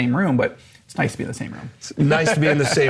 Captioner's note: chuckles